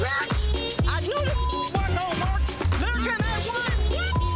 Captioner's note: beep